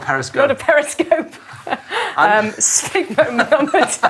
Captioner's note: laughing